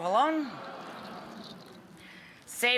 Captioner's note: crowd reacting